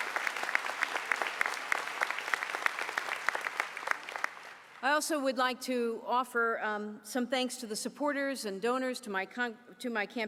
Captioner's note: applause